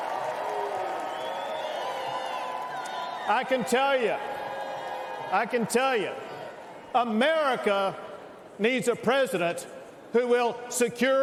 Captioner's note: cheers and applause